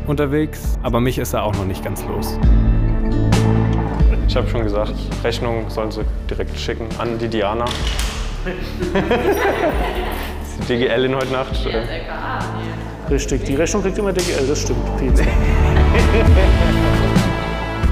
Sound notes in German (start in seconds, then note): 2.5 Nachdenkliche Musik; 8.4 Lachen; 14.6 Lachen, eindringliche Musik